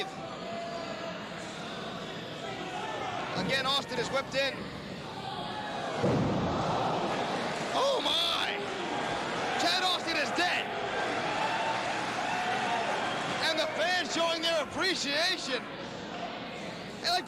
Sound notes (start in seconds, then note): 12.5 cheers and applause